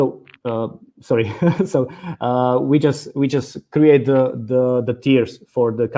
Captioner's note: chuckles